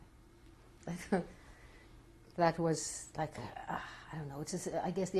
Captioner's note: laughs